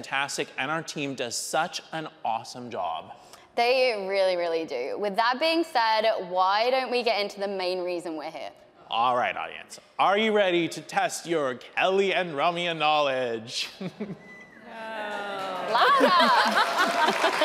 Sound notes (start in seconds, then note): 13.9 laughs; 14.6 audience cheering; 15.6 laughs; 16.7 audience applauding; 16.7 audience cheering